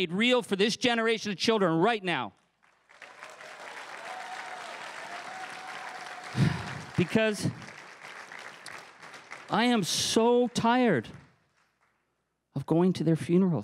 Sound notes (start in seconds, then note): 3.2 crowd cheering and applauding; 6.2 sighs